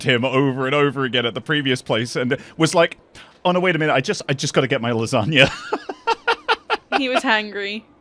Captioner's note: laughs